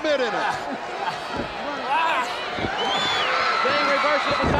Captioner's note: Ric groaning